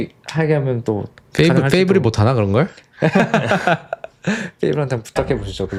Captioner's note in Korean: 웃음